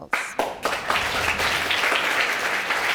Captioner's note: audience applauding